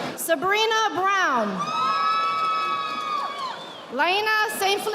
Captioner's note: audience applauding